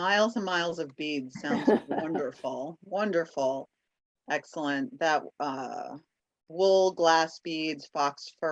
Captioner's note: laughter